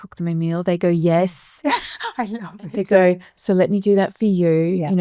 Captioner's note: laughs